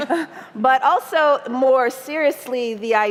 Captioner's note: laughter